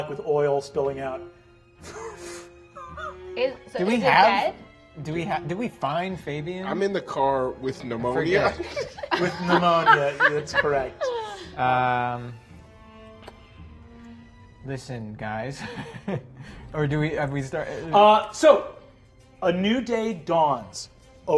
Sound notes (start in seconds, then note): 8.4 laughing; 15.6 chuckles